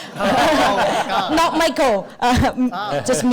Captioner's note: audience laughter